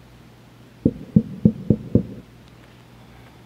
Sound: knock at door

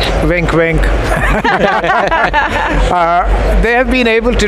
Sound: group laughs

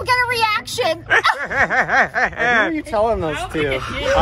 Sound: laughs

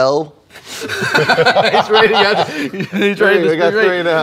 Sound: laughs; laughter

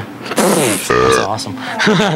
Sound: burping; laughing

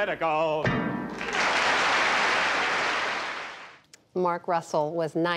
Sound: applause

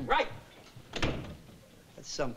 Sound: door bangs

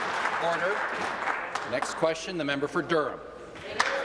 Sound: applause

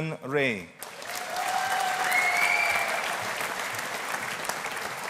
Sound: audience applauding

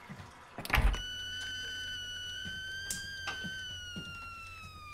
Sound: kettle boiling

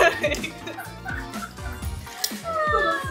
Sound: laughing out loud

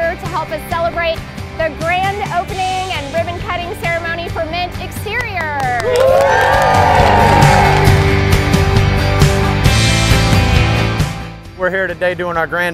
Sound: claps and cheering

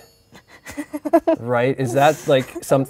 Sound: laughs

